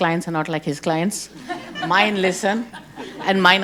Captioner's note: group laughing